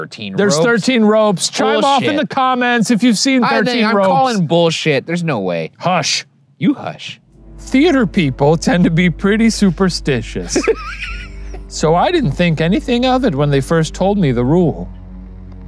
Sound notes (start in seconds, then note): 10.3 laughing